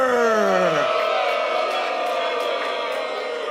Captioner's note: booing